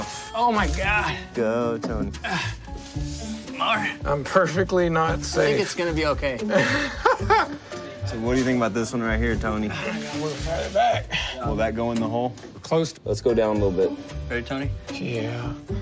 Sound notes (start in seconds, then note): 6.4 laughs